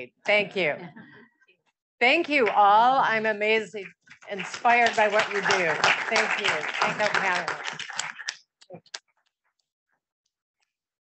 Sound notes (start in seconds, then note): 6.6 audience applauding